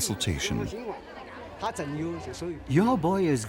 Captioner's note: speaking in foreign language